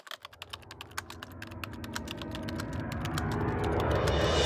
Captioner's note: typewriter sounds